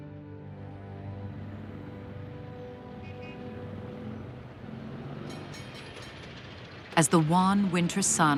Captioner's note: trolley bell rings, people talking in background